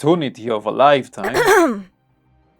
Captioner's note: ahem